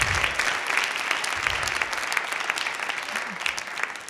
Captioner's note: applause